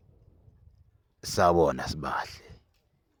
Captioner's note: in Zulu